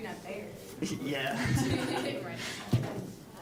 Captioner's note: all laughing